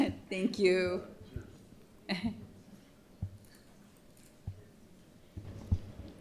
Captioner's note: laughterer